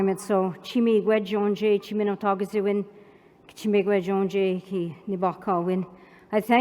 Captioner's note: non-english speech